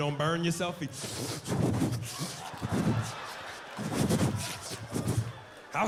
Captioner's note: slurping